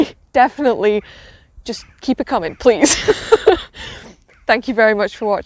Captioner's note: laughs